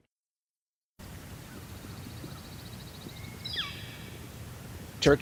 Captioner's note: turkeys and nature sounds